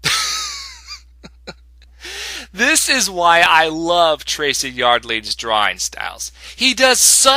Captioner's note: snicker